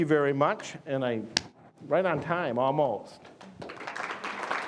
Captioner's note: claps hands; audience applauding